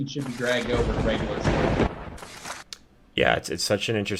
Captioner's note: thunder crackling